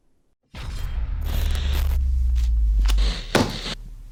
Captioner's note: electricity zaps